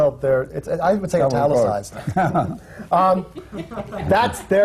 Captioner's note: laughter